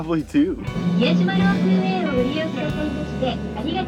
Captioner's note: announcement in Japanese